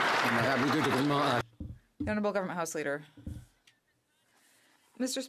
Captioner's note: some Applause